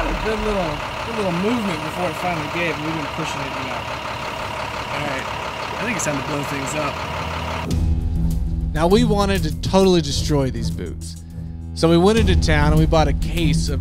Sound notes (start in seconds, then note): 3.8 engine roaring